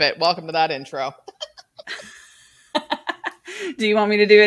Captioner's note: both laughs